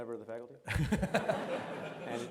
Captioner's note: laughs